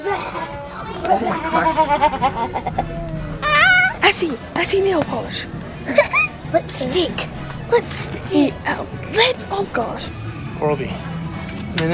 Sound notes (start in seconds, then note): 0.0 excited giggling; 5.8 giggles